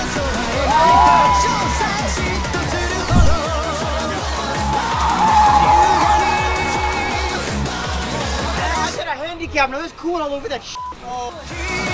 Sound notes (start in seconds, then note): 4.5 tire screeching; 7.7 foreign music playing